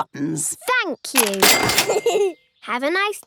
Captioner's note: giggles